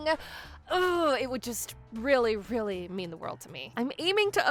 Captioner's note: groans